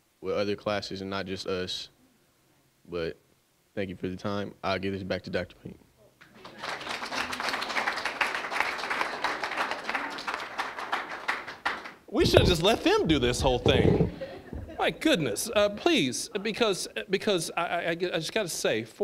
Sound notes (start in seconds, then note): 6.2 applause; 12.2 audience laughing